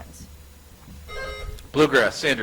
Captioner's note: buzzer chimes